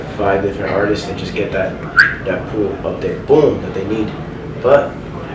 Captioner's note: whistles